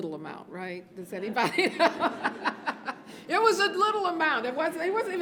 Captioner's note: laughs